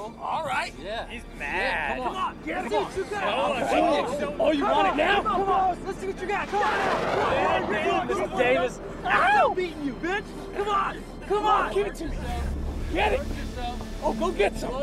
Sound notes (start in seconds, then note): 3.1 excited chattering